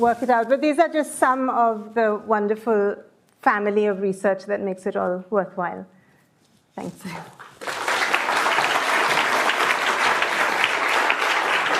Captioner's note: applause